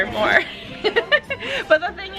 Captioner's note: laughing